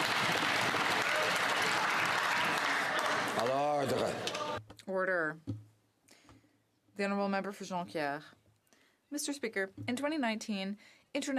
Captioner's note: some Applause